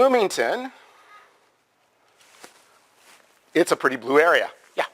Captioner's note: pause